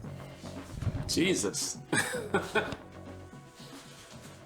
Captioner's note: laughs